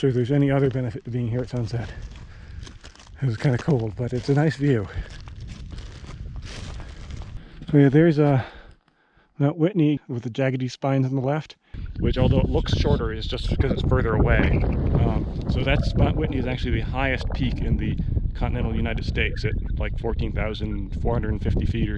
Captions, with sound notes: I'm not sure there's any other benefit to being here at sunset. It's kinda cold, but it's a nice view. (plants crunching) So yeah, there's Mount Whitney, with the jaggedy spines on the left, which although it looks shorter, is just because it's further away. (wind whistling) So that's--Mt. Whitney is actually the highest peak in the continental United States at like 14,450 feet,